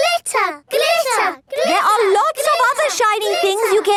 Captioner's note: chanting